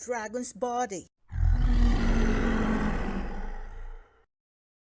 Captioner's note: dragon roared in pain